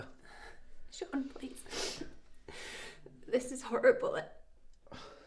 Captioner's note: sniffles